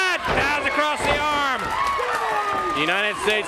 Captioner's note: crowd chatter